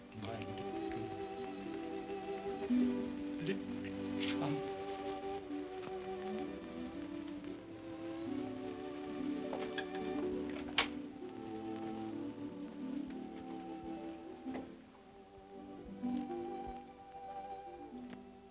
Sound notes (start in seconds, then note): 5.7 sentimental music; 10.4 door opens; 12.3 sentimental music